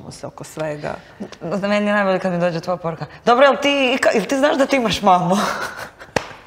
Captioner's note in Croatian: smijeh